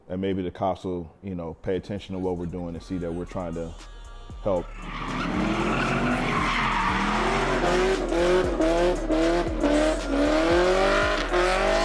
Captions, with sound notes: And maybe the cops will pay attention to what we're doing and see that we're trying to help. (upbeat hip-hop music) (engine roaring)